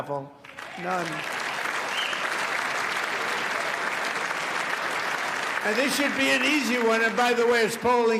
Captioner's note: applause